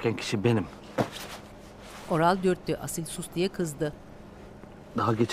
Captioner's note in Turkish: Sokak ortam sesi